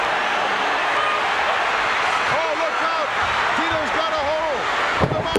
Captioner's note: audience cheering